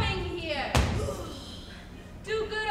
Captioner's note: Biondello grunts